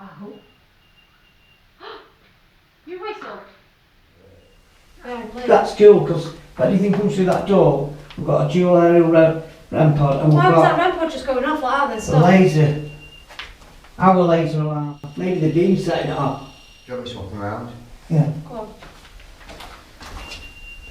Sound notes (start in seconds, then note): 0.0 whistle